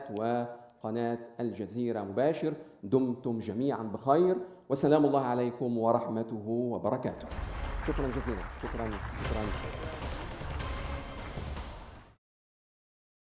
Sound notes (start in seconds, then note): 7.2 audience applauding; 9.7 dramatic closing music